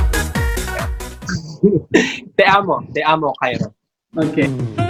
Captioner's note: in Spanish